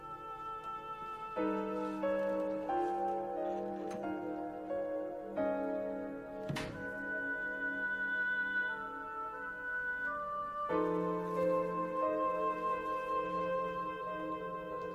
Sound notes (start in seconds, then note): 6.3 eerie music continues; 6.4 door clicks closed softly